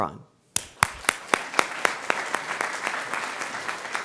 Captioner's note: crowd applauds